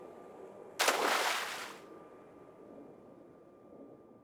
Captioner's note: splash